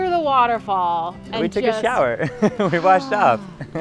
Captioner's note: laughs